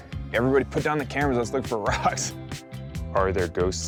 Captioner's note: laughing